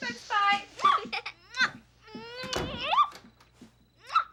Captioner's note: giggling, kissing